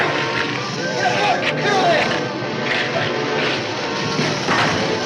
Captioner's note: muffled yelling